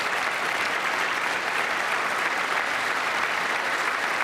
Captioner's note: applause